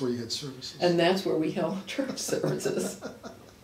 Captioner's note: laughs